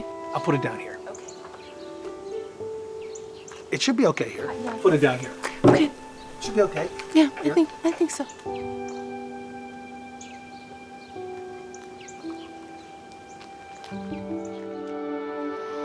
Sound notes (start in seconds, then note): 9.0 birds chirping; 9.0 soft music